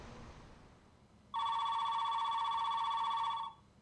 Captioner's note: phone ringing